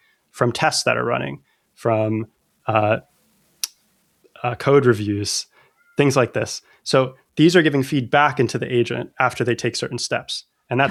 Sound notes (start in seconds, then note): 2.4 uh